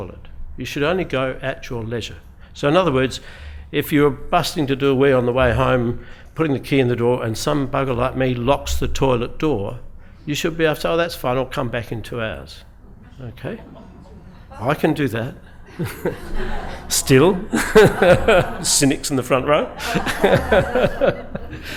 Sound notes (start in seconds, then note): 15.4 laughs; 15.6 laughter